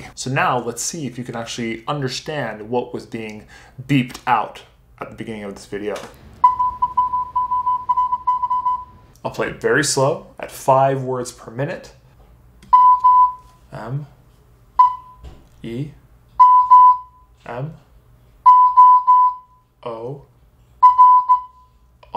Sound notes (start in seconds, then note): 6.2 beeping; 12.7 beeping; 14.8 beeping; 16.4 beeping; 18.4 beeping; 20.8 beeping